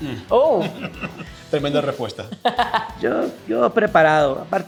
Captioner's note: laugh